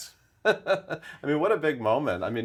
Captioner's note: laughing